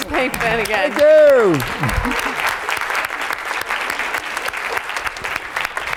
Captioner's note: applause